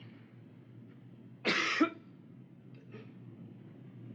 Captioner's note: coughs